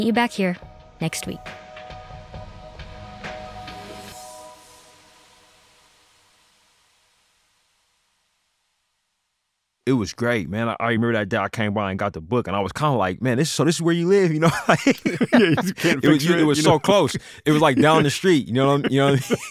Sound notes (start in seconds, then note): 4.5 music stops; 14.3 laughter